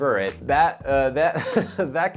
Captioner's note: giggles